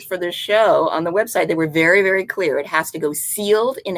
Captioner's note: none